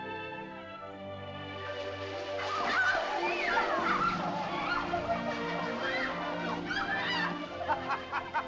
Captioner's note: leaves rustle; excited chatter; euphoric laughter; sentimental music